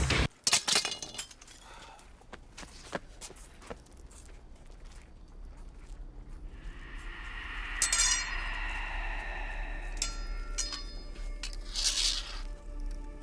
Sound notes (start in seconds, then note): 0.2 weapon clatters; 6.4 wind whooshes; 10.6 eerie music